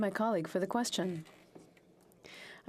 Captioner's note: speaking French